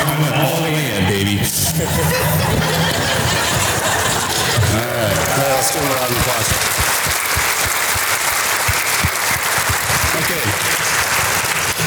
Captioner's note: audience laughter and applause